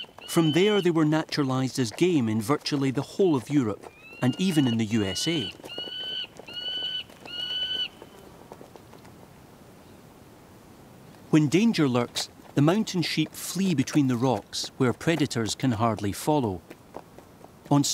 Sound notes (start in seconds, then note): 5.9 bird caws